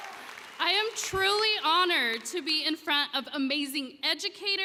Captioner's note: cheering